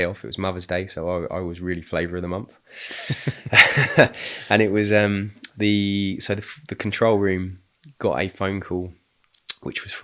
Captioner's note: laughing